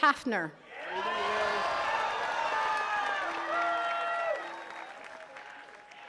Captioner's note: attendees cheering and clapping